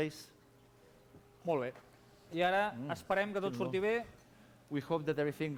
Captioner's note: non-english speech